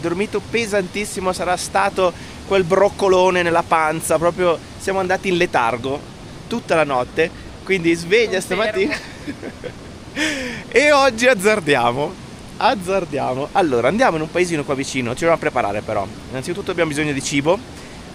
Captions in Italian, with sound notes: dormito pesantissimo. Sarà stato quel broccolone nella panza, proprio. Siamo andati in letargo tutta la notte, quindi sveglia stamattina [risate] e oggi azzardiamo. Azzardiamo. Allora, andiamo in un paesino qua vicino. a preparare, però innanzitutto abbiamo bisogno di cibo,